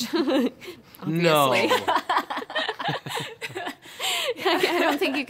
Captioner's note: laughter